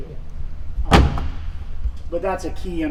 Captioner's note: closes door